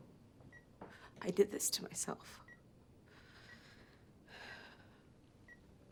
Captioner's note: sighs